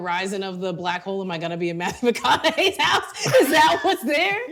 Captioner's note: laughing